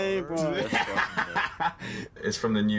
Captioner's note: laughing